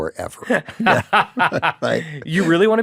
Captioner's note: laughs